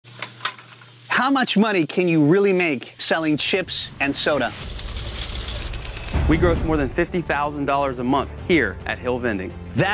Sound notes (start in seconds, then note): 3.6 dramatic music; 4.6 coins clanging